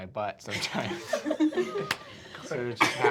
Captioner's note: laughter